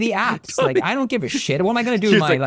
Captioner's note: laughter